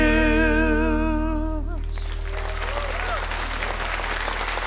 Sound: cheers and applause

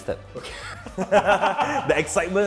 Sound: laughs

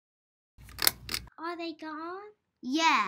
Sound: chain pulls

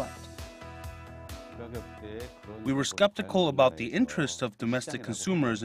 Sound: Korean

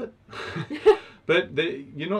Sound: both laugh

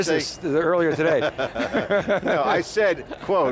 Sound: laugh

